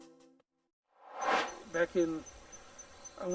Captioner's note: air swooshes